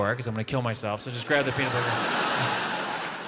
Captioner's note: audience laughs